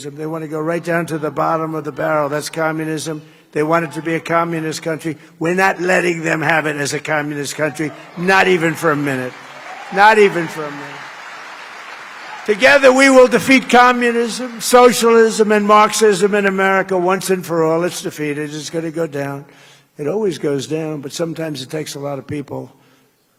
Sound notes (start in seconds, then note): 17.0 applause